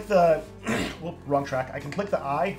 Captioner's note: clears throat